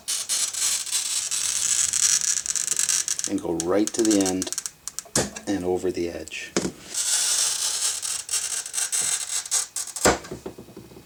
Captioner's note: glass cutting; glass cutting